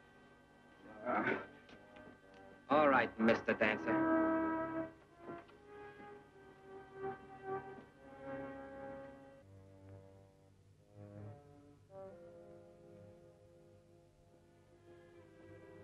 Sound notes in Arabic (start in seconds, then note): 0.8 يانسي يتأوه; 9.9 موسيقى مشوقة